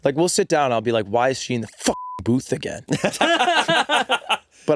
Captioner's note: beeping